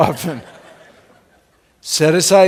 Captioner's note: laughing